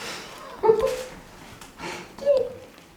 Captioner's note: laughs